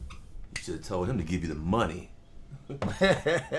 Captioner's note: laughing